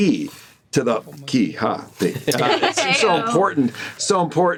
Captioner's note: chuckles